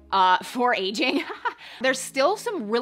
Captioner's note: chuckling